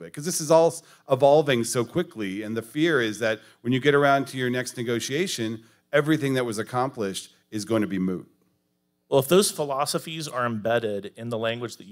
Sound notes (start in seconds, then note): none